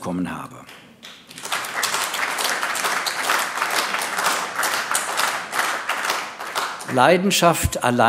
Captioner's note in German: Beifall AfD